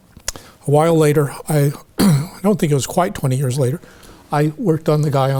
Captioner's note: clears throat